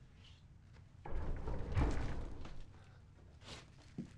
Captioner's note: vibrating